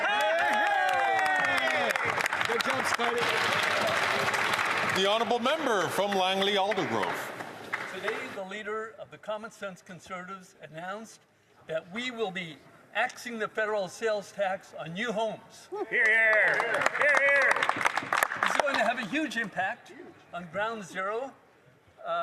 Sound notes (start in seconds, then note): 3.4 some Applause